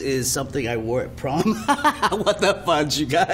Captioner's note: laughter